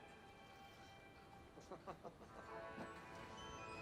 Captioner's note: laughs